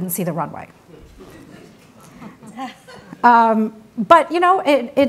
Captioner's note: audience laughs